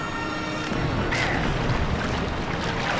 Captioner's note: splashing